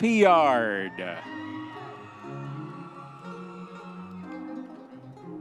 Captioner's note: audience members cheering